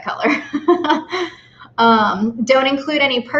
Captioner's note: laughs